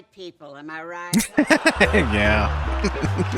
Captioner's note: chuckling